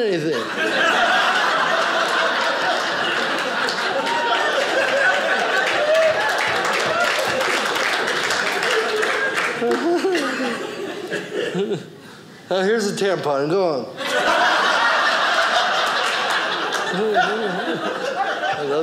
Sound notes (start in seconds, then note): 1.9 audience laughing; 5.3 audience cheering; 14.0 audience laughing